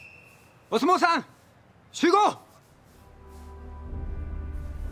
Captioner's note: whistle blowing; speaking in foreign language; inspirational music